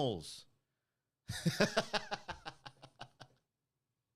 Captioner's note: laughing